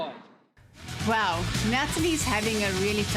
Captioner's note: narrating